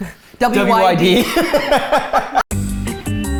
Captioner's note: laughing; funky music